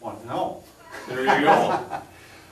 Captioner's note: laughs